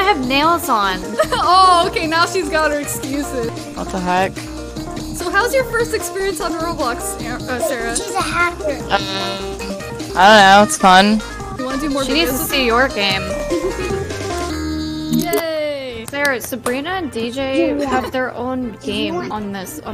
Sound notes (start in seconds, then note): 16.1 claps